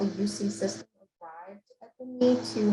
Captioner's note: web-call distortion